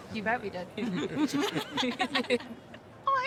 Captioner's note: all laughing